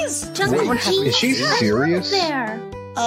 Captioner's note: overlapping excited chatter